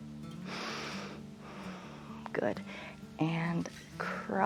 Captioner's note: inhales and exhales